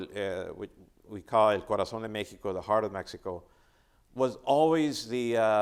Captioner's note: speaking Spanish